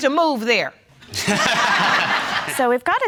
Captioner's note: all laughing